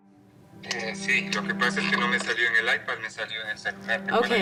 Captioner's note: audio of speaking Spanish